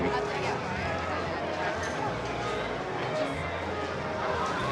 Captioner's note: people chattering